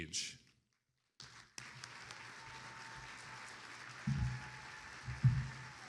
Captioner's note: attendees applauding